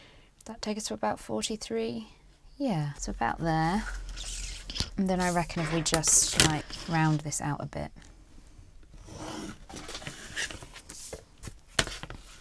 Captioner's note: pencil scratching